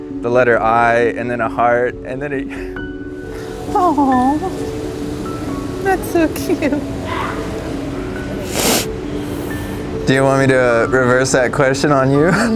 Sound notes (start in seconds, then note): 3.9 sobs; 5.3 soft music; 8.5 sobs